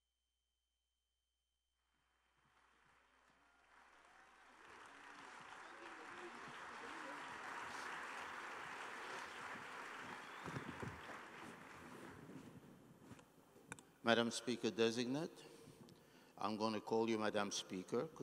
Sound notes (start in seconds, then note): 6.4 applause